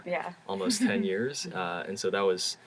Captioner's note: laugh